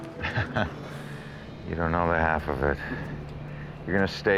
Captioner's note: laughs